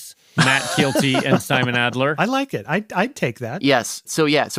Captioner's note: laughs